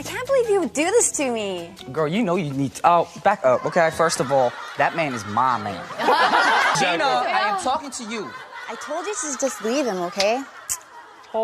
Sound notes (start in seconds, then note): 6.4 audience laughing